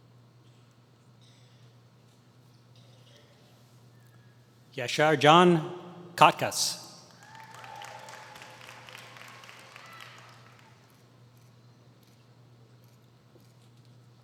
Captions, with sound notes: Yaser Can Kakdas [Applause]